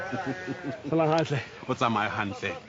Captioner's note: speaking foreign language; laughs; speaking foreign language